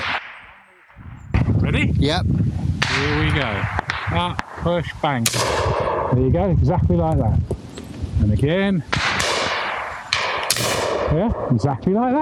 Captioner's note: gunfire